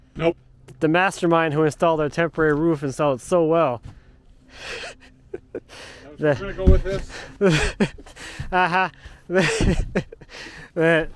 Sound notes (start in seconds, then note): 4.5 chuckling; 7.4 laughing